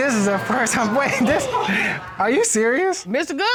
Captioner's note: laughs; all hooting